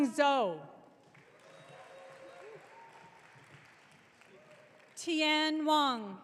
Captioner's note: audience cheering